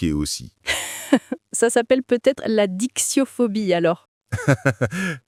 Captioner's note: laughs